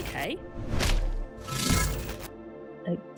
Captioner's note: none